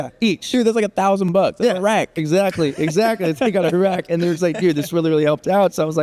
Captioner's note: haha